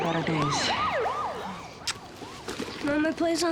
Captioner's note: siren wails in distance